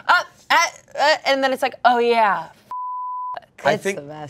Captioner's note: beep